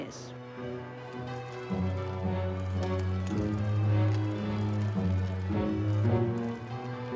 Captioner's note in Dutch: langzame muziek; klokken luiden